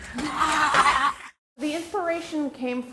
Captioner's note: scare actors roaring